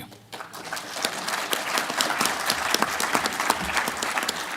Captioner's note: applause